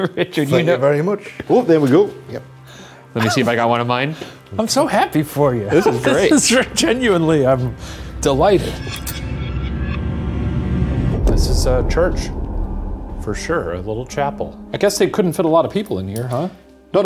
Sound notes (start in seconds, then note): 5.7 chuckling; 8.8 eerie music